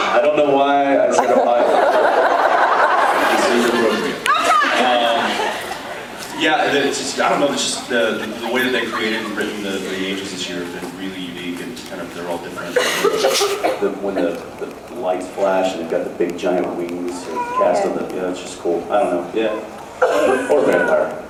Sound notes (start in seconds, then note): 2.2 laughs